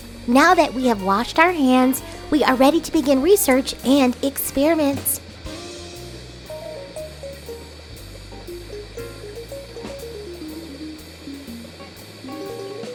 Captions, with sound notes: Now that we have washed our hands, we are ready to begin research and experiments. (Bunsen burner hissing) (liquid burbling) (gentle lilting music continues)